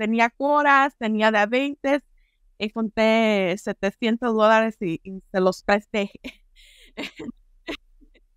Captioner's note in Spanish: risas